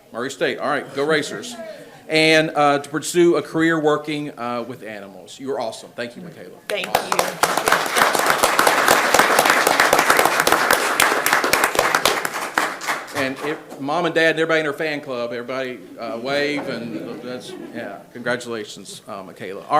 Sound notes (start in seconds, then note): 6.6 people clap